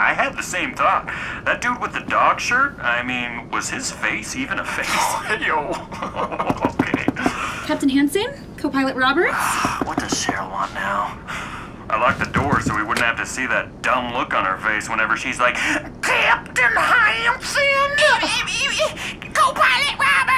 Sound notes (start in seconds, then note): 4.7 both laugh; 14.3 southern drawl